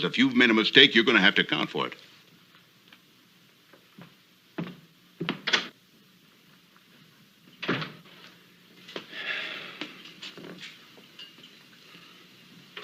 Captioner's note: Ben sighs